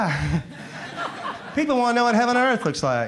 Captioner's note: crowd laughs